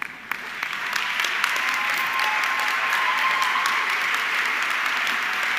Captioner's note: audience clapping